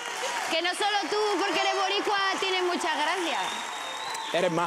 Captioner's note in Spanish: aplausos